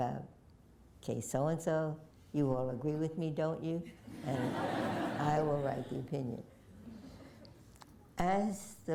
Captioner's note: laughter